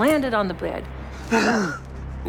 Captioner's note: Norman gasps